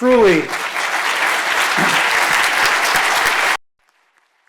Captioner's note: audience applauds